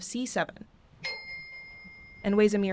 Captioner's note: saprano bell chiming